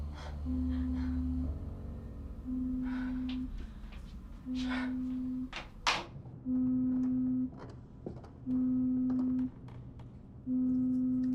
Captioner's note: cellphone vibrates